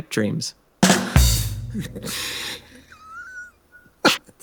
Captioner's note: drums playing; both laughing; both laughing